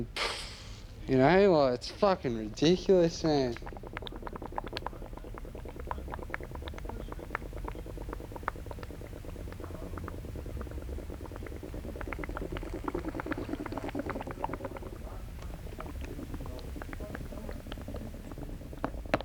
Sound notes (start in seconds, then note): 0.1 makes puff sound; 4.0 bubbles; 19.0 taps bottle